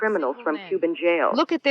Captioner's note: archival news audio